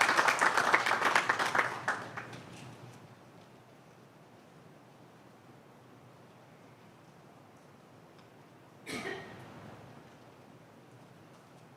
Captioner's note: applause